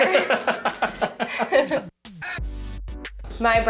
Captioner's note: laughs